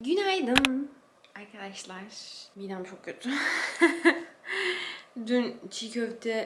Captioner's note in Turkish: kahkaha